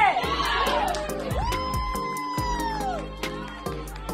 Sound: screaming

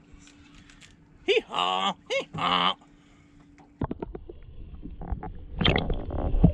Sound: donkey calls

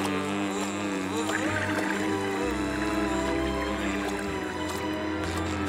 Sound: buzzing

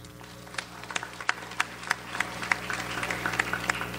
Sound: audience applauds

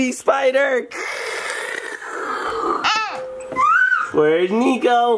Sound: making crackling noise

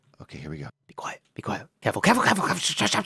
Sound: whispers

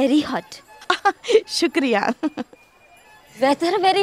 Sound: chuckles

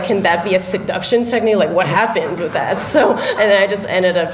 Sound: laughter

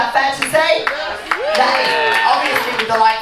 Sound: crowd cheers

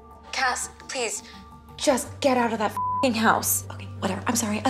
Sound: beeps

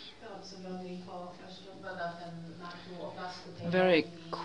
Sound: non-english

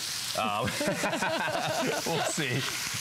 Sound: laughter

